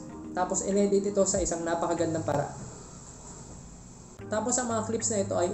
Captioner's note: drill